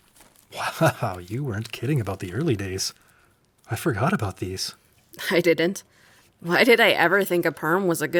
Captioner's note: paper rustling